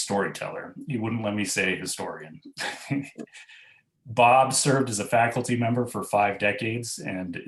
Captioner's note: laughs